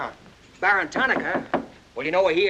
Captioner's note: knocking on door